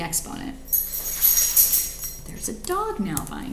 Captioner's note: dog collar rattling